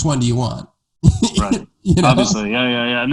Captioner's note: laughing